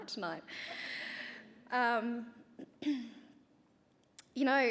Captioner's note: clears throat